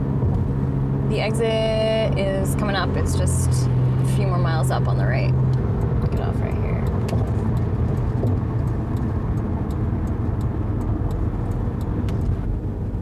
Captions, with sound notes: - The exit is comin' up, it's just a few more miles up on the right. (turn signal clicking) Get off right here.